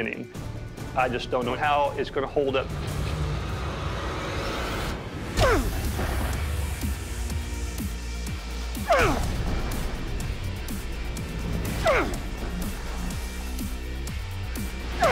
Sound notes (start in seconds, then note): 4.1 rock music; 8.8 grunting